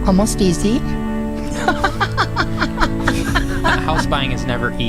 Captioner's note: laughing